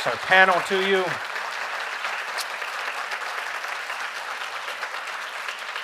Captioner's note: audience applauding